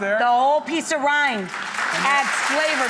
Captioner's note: applause